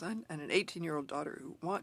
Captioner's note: speaking French